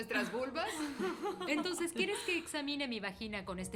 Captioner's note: laughs